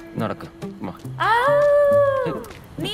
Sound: Maanu howls

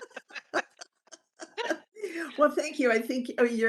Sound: laughing

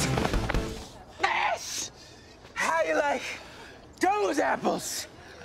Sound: out of breath

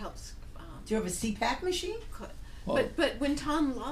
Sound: voiceover

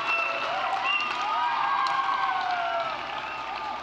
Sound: applause

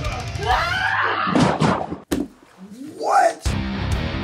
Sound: powerful scream; loud bang; intense action music

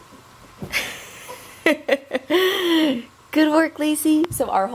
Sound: laughs

